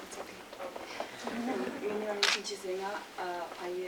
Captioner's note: speaking tibetan